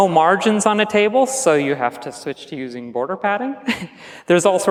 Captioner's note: chuckles